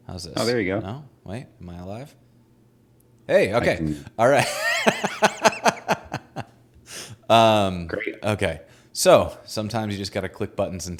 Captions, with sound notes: No, wait, am I alive? - Oh, there you go. - Hey okay! All right. (laughing) - Great. - Okay, so sometimes you just gotta click buttons